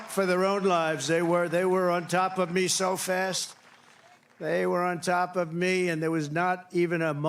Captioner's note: cheering